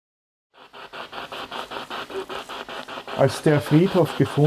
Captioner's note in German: Noise of the spiritbox in the background